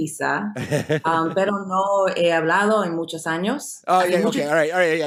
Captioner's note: speaking in foreign language